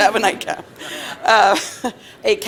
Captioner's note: laughter